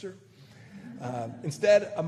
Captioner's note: laughter